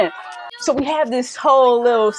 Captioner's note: people cheering